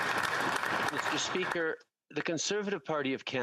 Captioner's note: applause